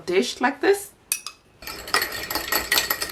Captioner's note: whisking